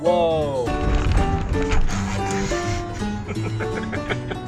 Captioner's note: person laughing; chill music; car rattling; laughs